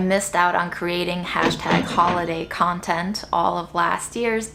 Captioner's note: cash register chimes